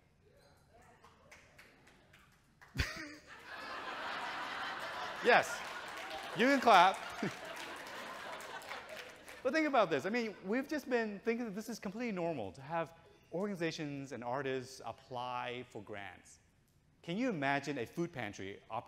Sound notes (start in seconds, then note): 2.8 audience chuckles; 2.9 chuckles